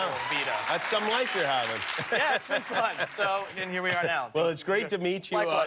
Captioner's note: laughter